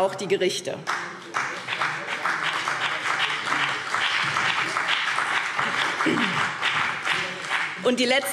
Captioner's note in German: Beifall BÜNDNIS 90/DIE GRÜNEN und vereinzelt CDU